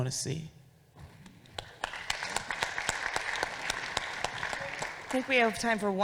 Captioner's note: audience applauding